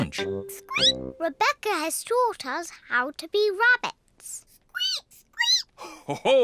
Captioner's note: squeaks; peppa and george squeak; laughs